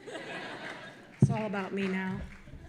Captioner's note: audience laughing